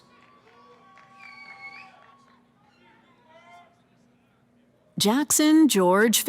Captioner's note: cheering